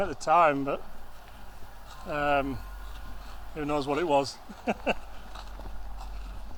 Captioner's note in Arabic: يضحك